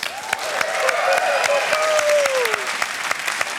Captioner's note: cheering and applause